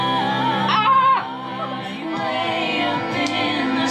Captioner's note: laughs